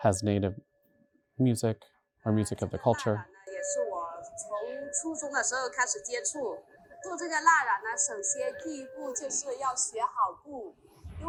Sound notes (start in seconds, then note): 3.3 artist speaking in foreign language; 7.6 traditional flute music